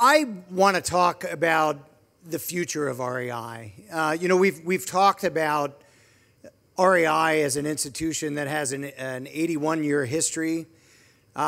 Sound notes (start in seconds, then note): none